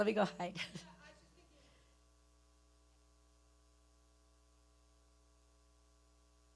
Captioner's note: speaking away from mic